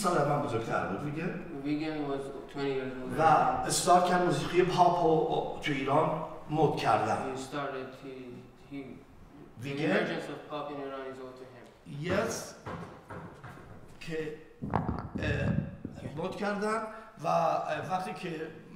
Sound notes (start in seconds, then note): 0.0 speaking in farsi; 4.0 speaking in farsi; 12.1 speaking in farsi